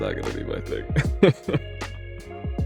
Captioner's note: laughs